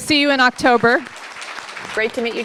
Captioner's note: applause